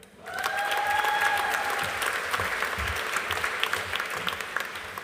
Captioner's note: audience applauding